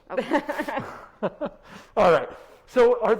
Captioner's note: both laughs